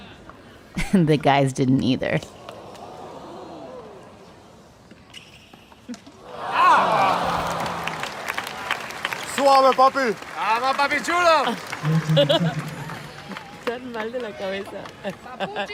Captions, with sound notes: The guys didn't either. (crowd cheering) (speaking in a foreign language) (laughing)